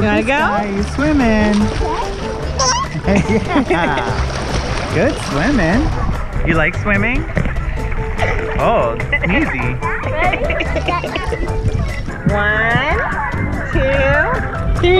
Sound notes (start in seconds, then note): 2.6 giggles; 2.8 laugh